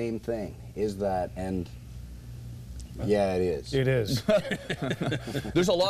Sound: laughs

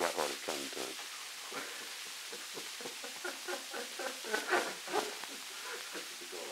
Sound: laughter

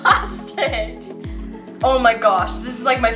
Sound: laughs

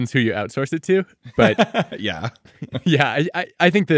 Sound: laughing

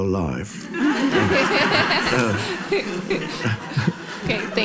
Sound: audience laughs

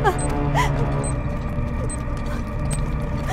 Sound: bomb beep

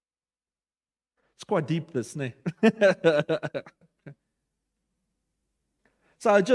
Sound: laughter

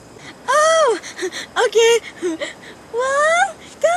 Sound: giggle

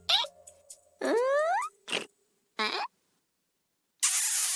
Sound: squeaks quizzically; snorts quizzically

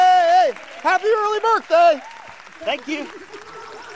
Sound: clapping

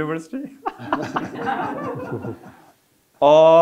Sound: audience laughing

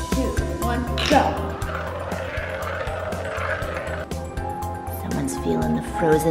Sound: playful music; marbles tap

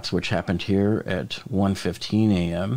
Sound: none

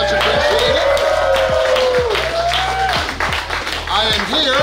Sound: clapping & Cheering

